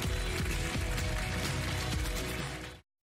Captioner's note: applause